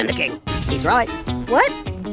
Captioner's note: another rumble sound is heard